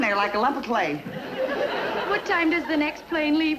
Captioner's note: audience laughing